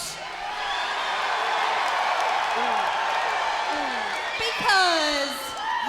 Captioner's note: crowd cheering